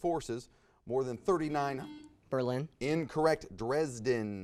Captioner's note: buzz